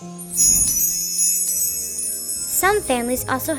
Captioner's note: bells tinkling